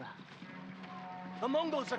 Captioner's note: alarm